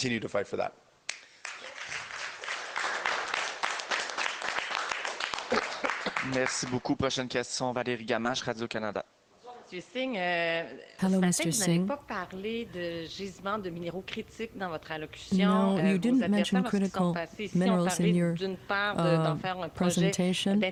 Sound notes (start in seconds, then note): 7.0 applause; 10.0 speaking French